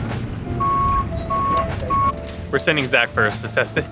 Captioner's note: vehicle beeping